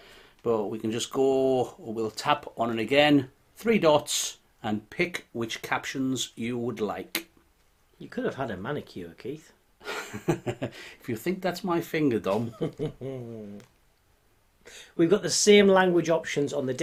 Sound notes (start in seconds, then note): 9.8 laughing; 12.4 laughing